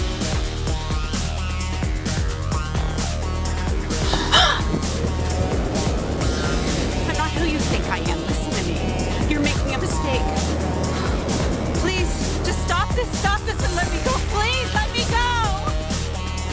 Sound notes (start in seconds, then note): 0.2 thrilling music; 3.4 gasping for air